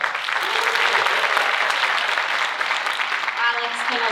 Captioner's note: audience cheering